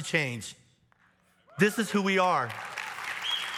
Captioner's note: audience cheers; audience applauds